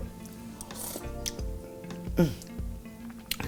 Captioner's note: slurps